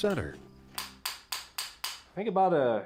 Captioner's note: hammer taps